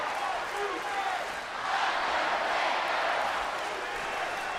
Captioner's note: crowd cheering